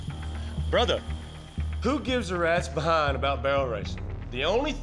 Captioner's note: none